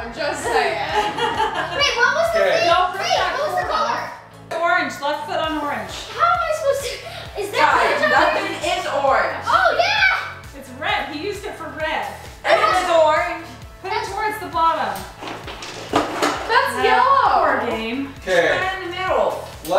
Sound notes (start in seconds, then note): 0.4 laughs; 15.2 items tumbling around